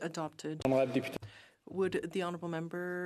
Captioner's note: speaking in French